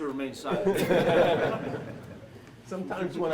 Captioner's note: laughter